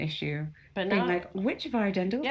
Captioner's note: none